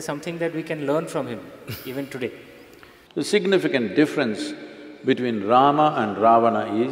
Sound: Sadhguru laughs

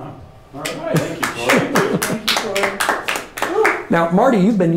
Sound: crowd applauding

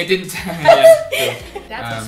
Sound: laughter

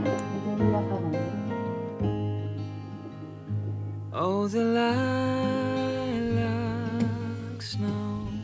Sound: laughs

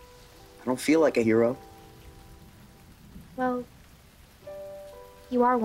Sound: none

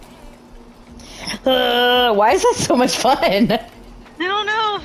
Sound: giggles

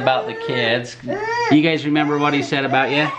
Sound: fusses

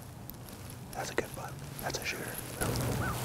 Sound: whispering

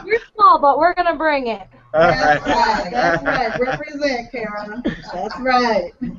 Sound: laughter

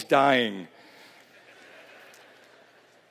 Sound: laughter

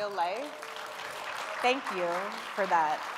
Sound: audience applauding

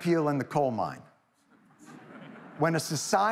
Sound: audience titters

